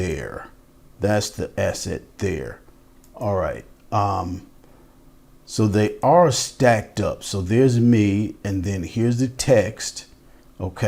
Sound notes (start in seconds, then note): none